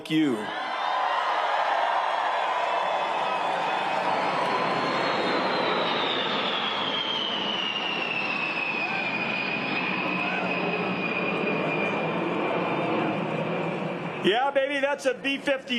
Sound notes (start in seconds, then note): 4.8 cheers and applause